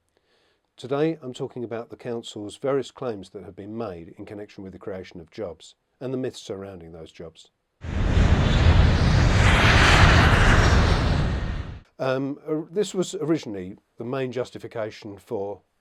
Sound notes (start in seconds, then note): 7.8 noise of aircraft taking off